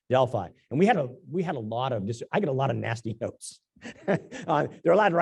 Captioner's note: laugh